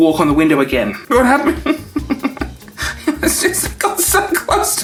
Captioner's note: whimpers